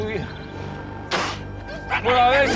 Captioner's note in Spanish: Ríe ebrio